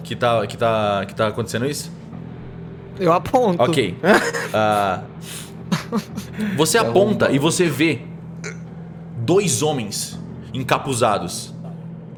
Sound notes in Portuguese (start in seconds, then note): 5.6 risos